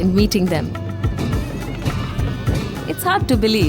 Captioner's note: soft upbeat music; metal clanking; commotion